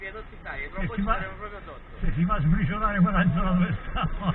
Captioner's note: passengers chatting in Italian